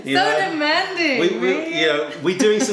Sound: laughter

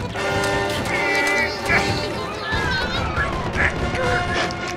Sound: Mr. Krabs grunting

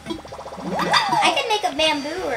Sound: cheering noise

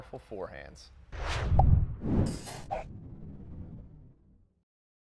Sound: air whooshing

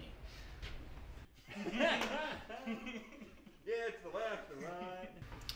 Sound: laughing

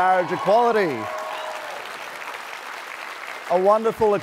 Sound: applause

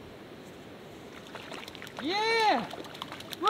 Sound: water splashing

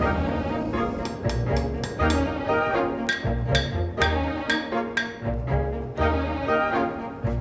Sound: hammer strikes

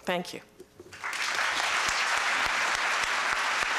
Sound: applause

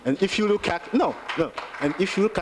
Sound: applause

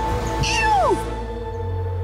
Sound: cow calls

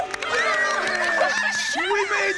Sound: cheering

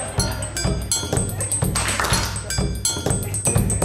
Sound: clapping

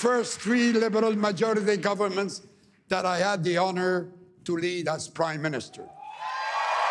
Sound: applause

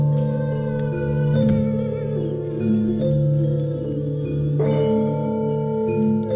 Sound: humming sounds and gentle metallic sounds

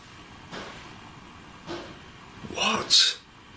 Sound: knocking

